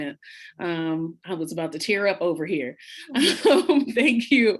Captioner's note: laughs